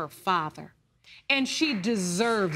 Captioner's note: audience clapping